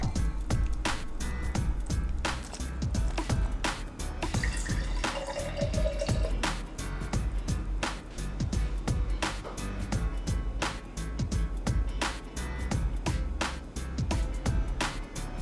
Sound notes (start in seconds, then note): 0.1 cheerful music; 4.3 water rushing